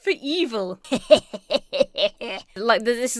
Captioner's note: laughs mischievously